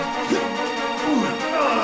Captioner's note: whirring; gasps; groans